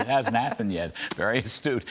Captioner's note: laughter